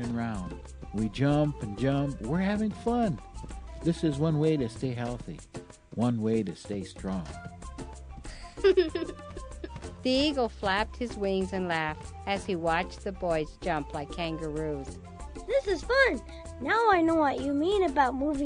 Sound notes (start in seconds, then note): 8.2 giggling